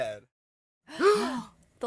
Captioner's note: everyone gasps